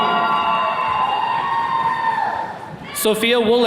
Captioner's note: attendees cheering